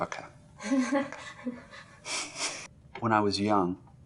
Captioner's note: awkward interviewer laughter